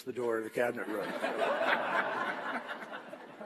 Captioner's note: laughter and applause